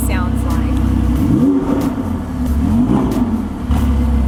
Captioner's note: revs the engine; wrrroooom-wrrrrooooom!